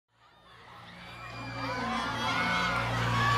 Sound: crowd cheering

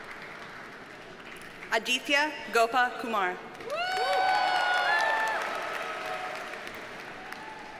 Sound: audience cheers and applauds

